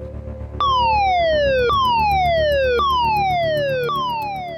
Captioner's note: alarm blaring